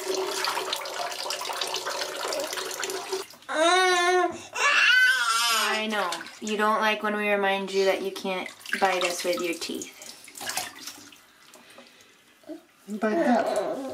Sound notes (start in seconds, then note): 3.5 baby groans in protest; 3.5 baby wails; 10.5 water splashes